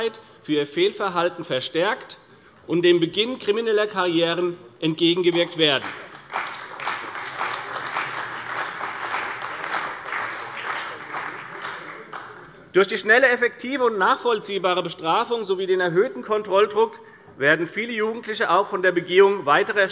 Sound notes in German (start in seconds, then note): 5.3 Beifall bei der CDU und dem BÜNDNIS 90/DIE GRÜNEN